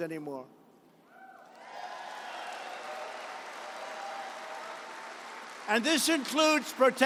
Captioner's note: applause